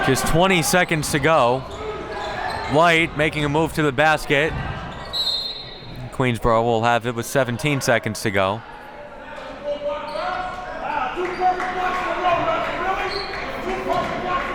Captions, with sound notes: Just :20 to go, Leite making a move to the basket. (whistle blowing) Queensborough will have it with :17 to go.